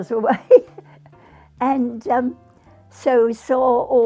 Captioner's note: laughing